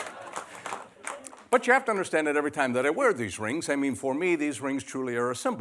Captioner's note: laughter